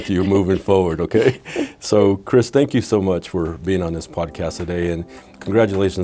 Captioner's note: laughing